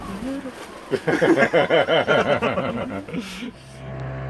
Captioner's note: laughs